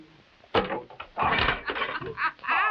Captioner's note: Camila laughing